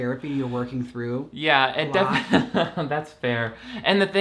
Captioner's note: laughs